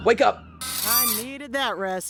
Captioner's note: metal squeak